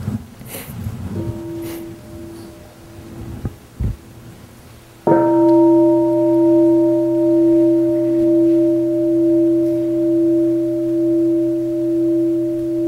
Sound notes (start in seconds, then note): 1.1 sound of the bell